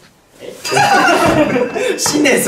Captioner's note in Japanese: 効果音：チーーーン